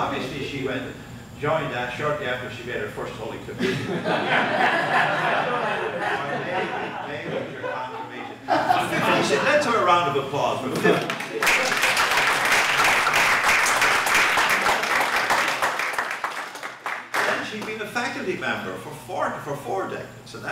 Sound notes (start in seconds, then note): 3.6 laughter; 10.9 applause